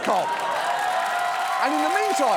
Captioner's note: audience cheers